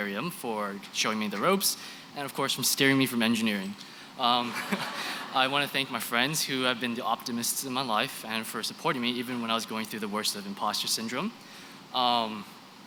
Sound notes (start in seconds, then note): 4.4 chuckles